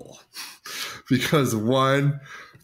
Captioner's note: laughs